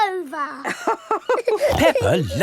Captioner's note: both laughing